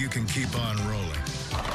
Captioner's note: bowling pins knocked down